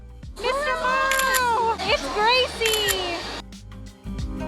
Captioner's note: camera shutter